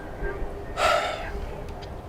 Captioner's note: sighs